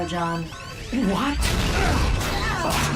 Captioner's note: explosion